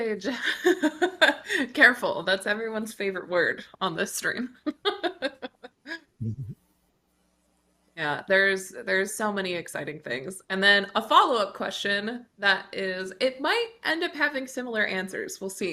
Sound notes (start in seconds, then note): 0.2 chuckles; 6.2 chuckles